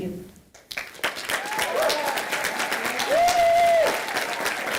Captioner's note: audience applauding